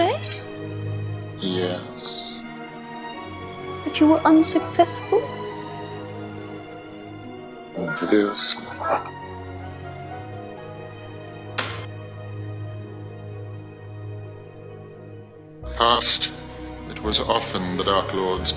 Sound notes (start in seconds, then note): 8.6 snickers; 11.5 slap